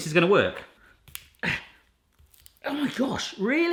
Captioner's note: grunts